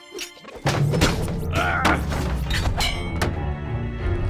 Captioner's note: tender music; more scaffolding crashes; Moth Napper groans